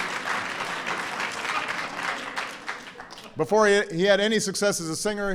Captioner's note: laughter and applause